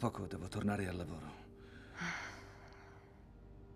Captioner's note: sighs